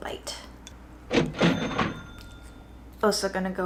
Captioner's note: cash register dings